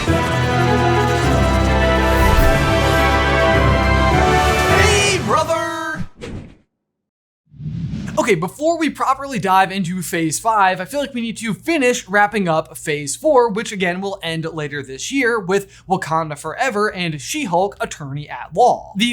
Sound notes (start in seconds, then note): 0.0 dramatic music; 7.6 logo whooshing